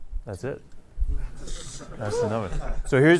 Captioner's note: laughter